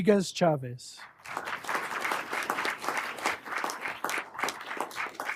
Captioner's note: everyone applauding